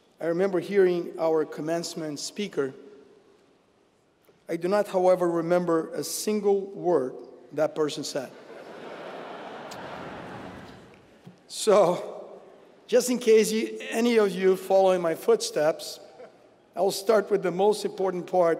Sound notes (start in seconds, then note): 8.6 laugh